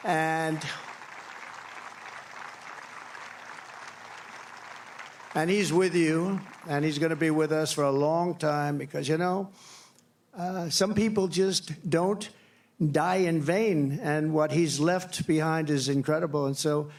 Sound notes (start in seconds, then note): 6.5 applause